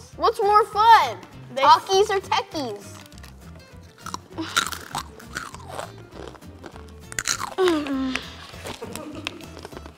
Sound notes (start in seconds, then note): 3.9 crunching